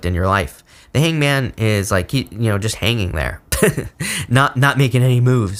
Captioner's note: laughs